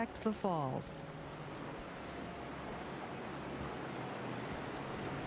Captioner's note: waves rushing